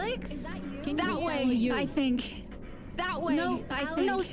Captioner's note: dialogue echoes